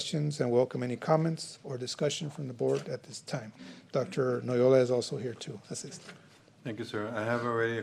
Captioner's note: snorts